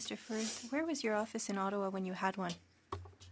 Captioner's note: speaking French